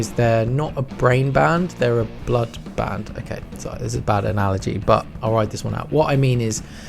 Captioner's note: sigh